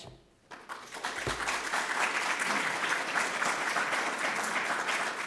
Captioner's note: applause